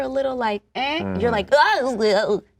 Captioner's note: voice quivering